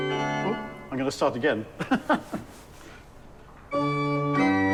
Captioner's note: laughing; pleasant music